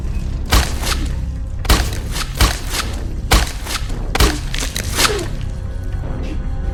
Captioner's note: flesh crunching; soft groaning